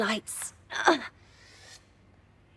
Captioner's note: she grunts